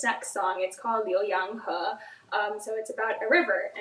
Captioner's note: speaks in foreign language